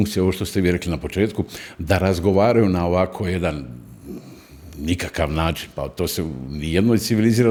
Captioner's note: snort